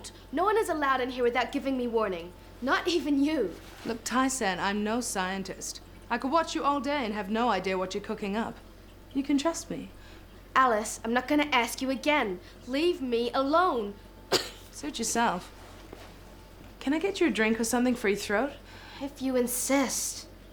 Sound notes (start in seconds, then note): 14.3 coughs